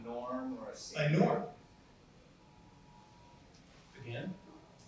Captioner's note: phone rings